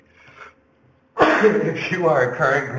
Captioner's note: sneezing